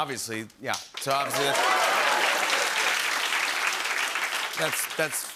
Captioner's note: cheers and applause